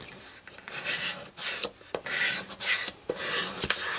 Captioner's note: scraping